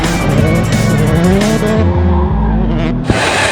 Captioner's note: engine revs; tires squealing